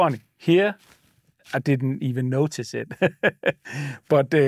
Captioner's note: laughs